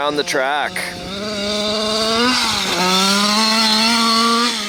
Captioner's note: engine roaring